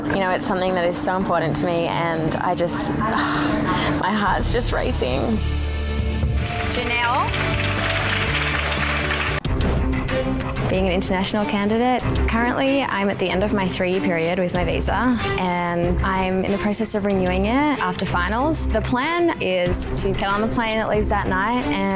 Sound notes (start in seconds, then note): 3.1 sighs; 6.3 crowd claps; 9.5 suspenseful music